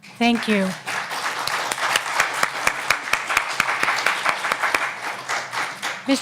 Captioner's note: applause